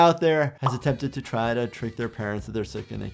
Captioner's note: button clicking; image popping